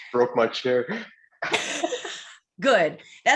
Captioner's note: laughing